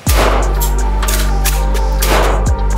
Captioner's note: gun firing; gun clicking; gun firing; gun clicking